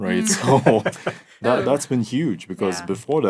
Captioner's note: laughing